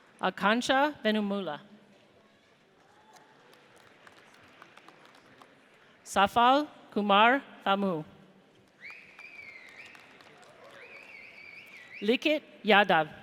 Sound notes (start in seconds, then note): 2.8 audience applauds; 8.6 audience cheers